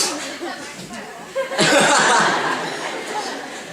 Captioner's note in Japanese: 泣笑